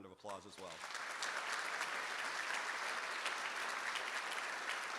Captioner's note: audience applauding